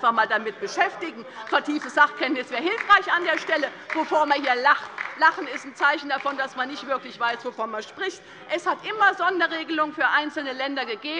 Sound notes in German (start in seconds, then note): 5.1 Beifall